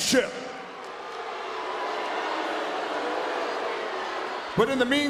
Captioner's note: audience jeering